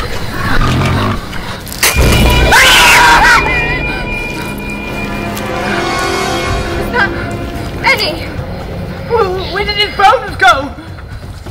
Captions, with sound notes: (grunting) (screaming) - Is that... Benny? - Where did his bones go?